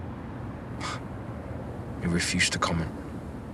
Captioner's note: he scoffs